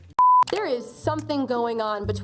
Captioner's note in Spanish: la pantalla emite un pitido